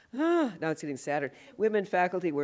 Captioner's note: sighs